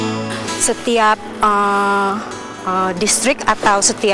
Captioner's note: non-english speech